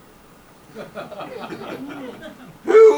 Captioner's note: audience laughs